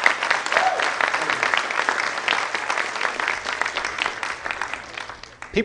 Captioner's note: applause